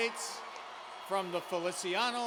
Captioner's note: cheers and applause